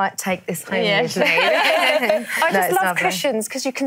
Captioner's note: laughs